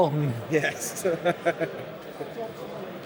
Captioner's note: laughing